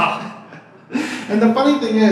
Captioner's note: laughs uncomfortably; laughs